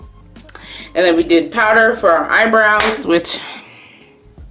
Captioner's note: claps